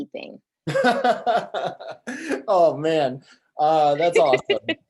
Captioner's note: laughs